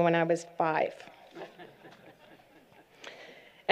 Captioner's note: laughter